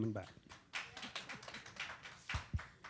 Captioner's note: applause